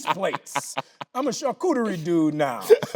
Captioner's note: Tyler laughing